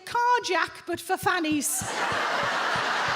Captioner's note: audience laughs; foot stomping